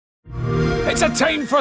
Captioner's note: xbox sound